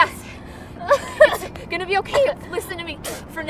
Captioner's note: Lulu sobbing